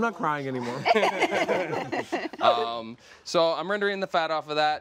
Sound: laughter

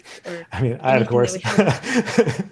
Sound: laughs

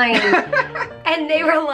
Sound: laughing

